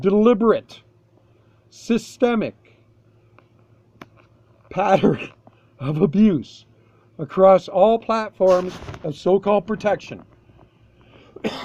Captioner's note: cough - cough